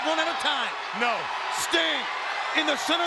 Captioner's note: audience cheering